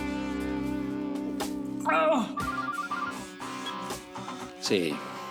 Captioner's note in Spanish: Suena el celular